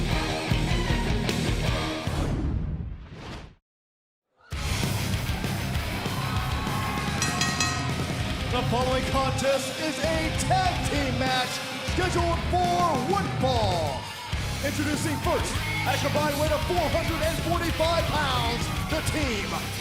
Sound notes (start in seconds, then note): 1.8 crowd cheering; 7.1 bell ringing